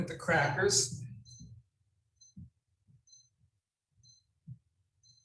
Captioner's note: timer beeping